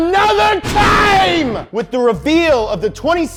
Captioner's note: thunder crashing